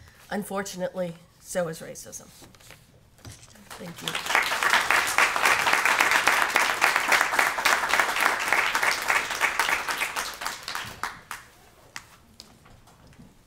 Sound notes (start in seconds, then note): 3.6 applause